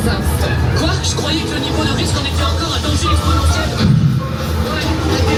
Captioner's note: speaks in French